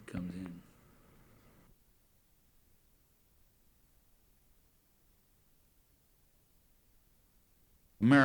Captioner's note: no audio